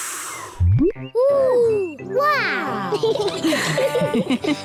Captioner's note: all laugh